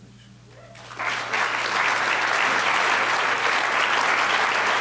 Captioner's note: audience applause